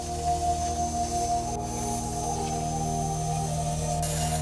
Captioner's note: machine buzzing